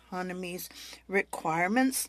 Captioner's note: speaking French